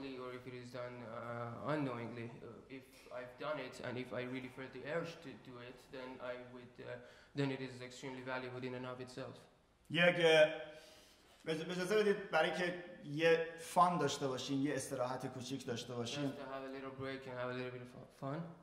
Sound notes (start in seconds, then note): 9.9 speaking in farsi; 18.4 speaking in farsi